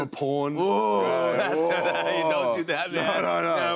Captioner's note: laughs